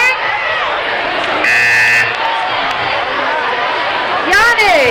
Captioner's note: buzzing